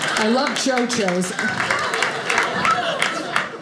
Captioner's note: audience laughing